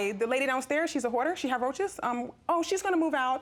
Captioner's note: imitating reginald